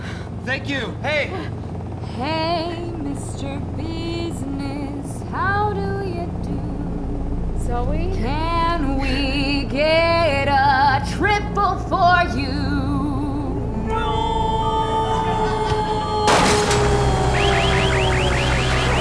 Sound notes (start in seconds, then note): 15.8 alarm siren; 16.3 gunshot